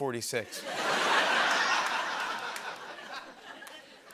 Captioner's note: laughter